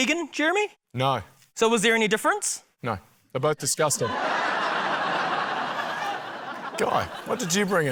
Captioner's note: laughter